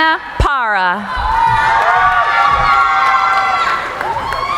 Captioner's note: cheering